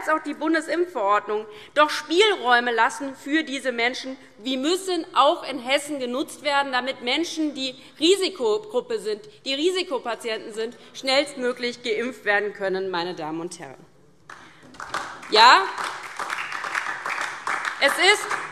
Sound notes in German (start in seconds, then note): 14.3 Beifall DIE LINKE